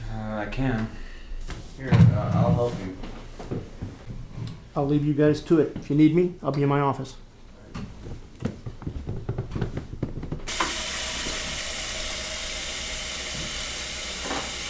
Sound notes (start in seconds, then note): 10.4 water running